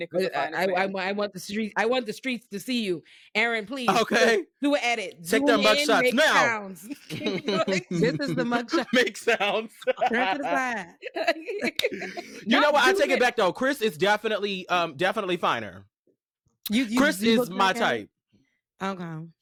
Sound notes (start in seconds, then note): 11.0 laughing